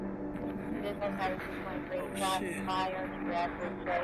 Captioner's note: muffled voices on a radio